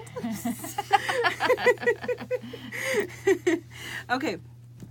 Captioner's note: both laughing